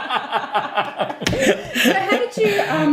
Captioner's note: laughing